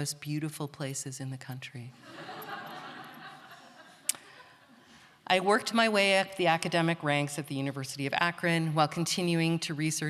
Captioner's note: laughter